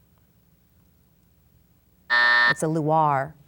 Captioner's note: buzzer sounds